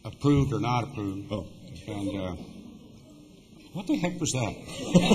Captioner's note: laughter